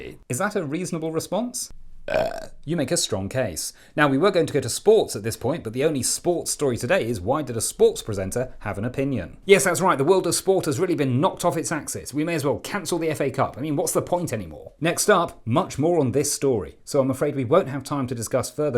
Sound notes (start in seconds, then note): 2.0 belch